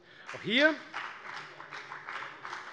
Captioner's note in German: Beifall bei der FDP